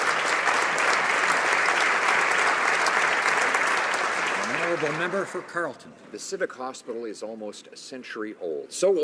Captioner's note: applause